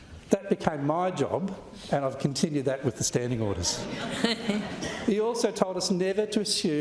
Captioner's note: laughter